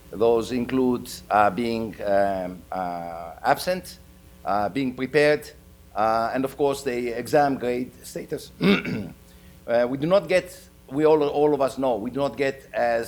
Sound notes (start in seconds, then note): 8.6 clears throat